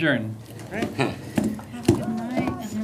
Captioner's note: laughter